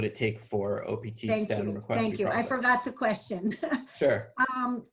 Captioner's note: laughs